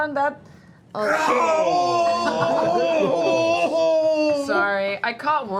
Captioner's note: groans in pain